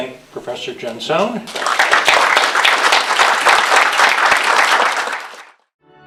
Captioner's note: applause